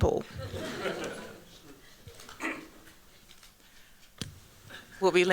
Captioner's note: chuckling